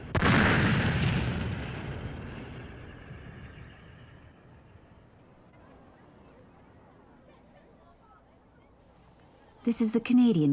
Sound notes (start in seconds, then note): 2.6 explosions end